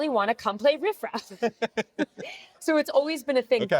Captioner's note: both chuckling